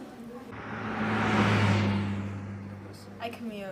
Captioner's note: car driving